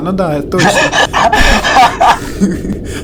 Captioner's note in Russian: Смех